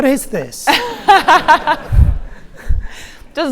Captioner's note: host laughs